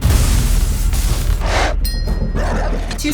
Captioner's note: dogs growl; glasses chime; creature growls